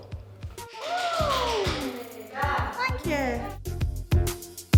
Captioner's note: clapping